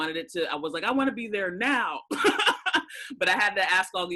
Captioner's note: laughs